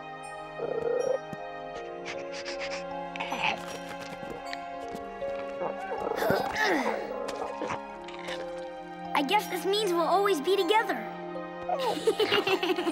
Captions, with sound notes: [grunting, sniffing] [grunting] I guess this means we'll always be together. [laughing]